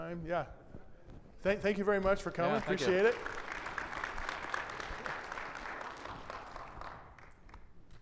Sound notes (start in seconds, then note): 5.3 audience applauding